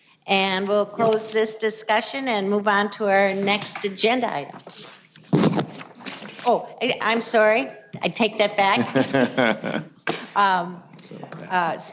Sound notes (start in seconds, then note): 4.4 papers shuffling; 8.7 man laughing